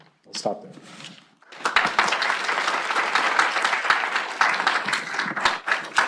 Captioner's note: applause